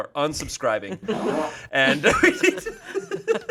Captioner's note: everyone laughs; fart machine farts